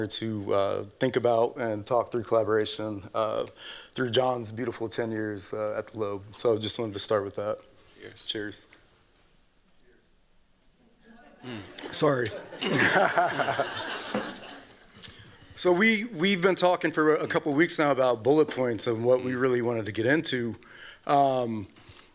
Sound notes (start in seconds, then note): 11.0 laughs